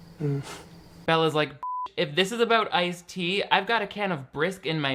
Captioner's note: beep